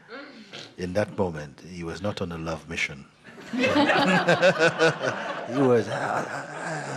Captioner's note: laughter